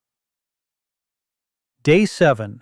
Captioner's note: pause